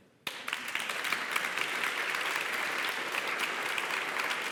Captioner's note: applause